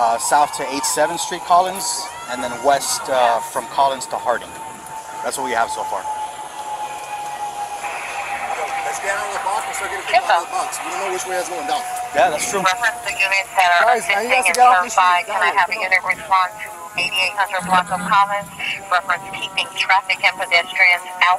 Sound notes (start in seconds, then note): 15.3 siren wailing